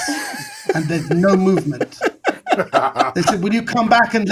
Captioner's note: all laughing